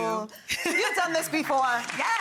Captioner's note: all laughing